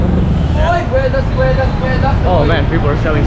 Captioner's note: foreign language